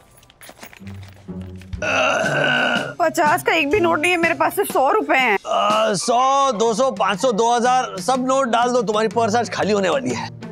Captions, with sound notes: [pain scream] I don't have a note of rupees fifty. All are of rupees hundred. Ah, hundred, two hundred, five hundred, two thousand... put all the notes, because your purse is going to become empty today.